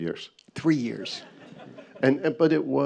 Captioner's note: audience chuckles